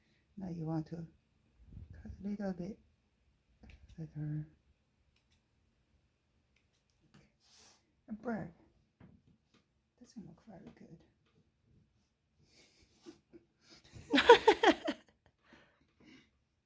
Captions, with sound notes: now you want to cut a little bit feather a bird doesn't look very good... [muffled laughter] [increased laughter]